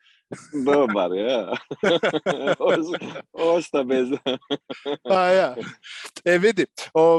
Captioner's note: laughter